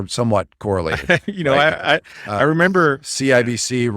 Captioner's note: laughs